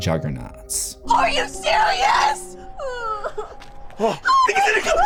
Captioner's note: crying; scream